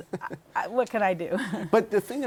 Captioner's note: laughter